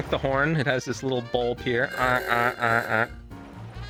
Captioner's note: car honks